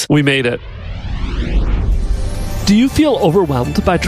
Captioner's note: air whooshing